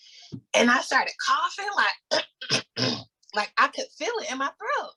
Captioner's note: coughs